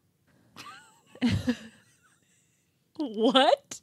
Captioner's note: chuckling